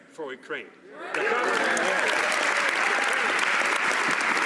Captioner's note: some Applause